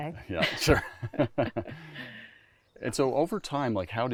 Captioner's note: laughs